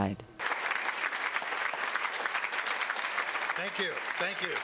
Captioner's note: audience applauds